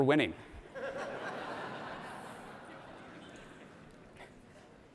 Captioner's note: audience laughs